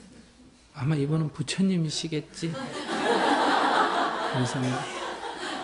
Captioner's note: audience Laughter